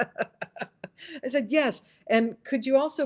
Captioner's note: laughs